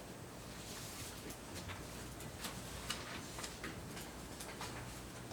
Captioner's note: documents shuffling